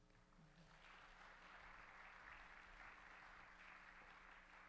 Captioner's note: audience applauds